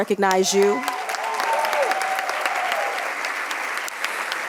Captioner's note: audience cheering